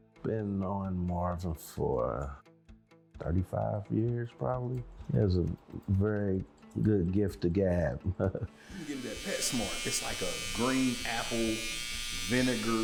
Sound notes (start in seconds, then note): 8.0 laughs